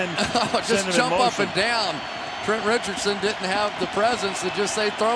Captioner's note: laughs